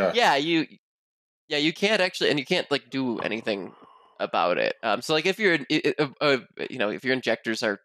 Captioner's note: stammers